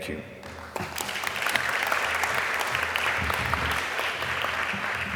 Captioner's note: crowd applauding